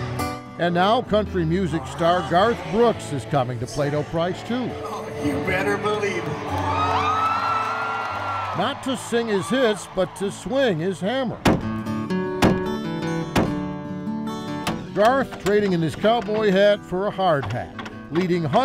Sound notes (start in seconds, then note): 7.0 crowd cheering; 11.7 hammer thumping; 11.7 uplifting music